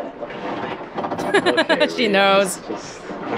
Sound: chuckles

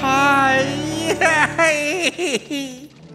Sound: crying

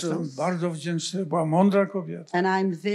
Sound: foreign language

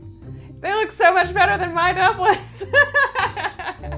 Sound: laughs

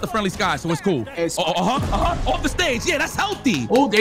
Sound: clapping

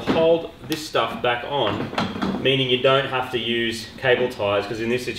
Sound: metallic clattering

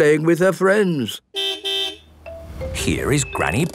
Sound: car beep

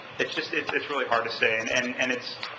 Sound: none

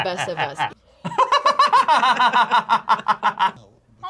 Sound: both laugh

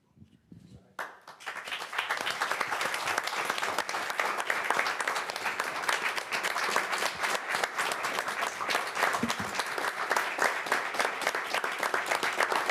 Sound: applause

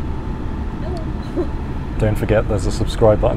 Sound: laugh

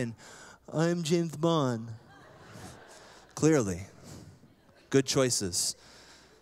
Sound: laughter

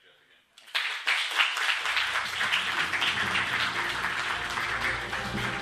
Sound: applause

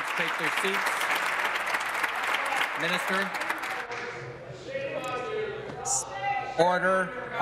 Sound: applause

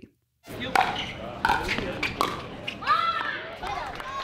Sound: pickleballs pwocking; cheering and applauding

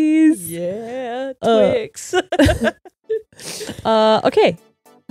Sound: laughs

